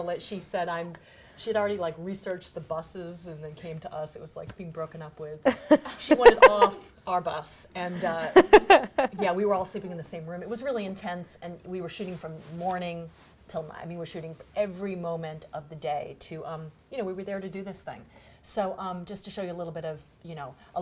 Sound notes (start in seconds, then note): 5.4 laughing